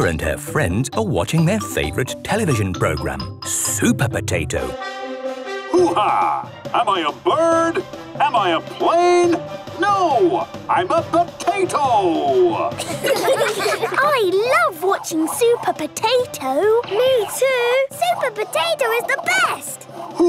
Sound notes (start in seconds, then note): 4.8 trumpet sounding; 12.7 children laughing